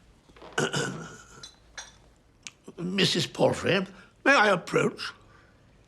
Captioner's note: clears throat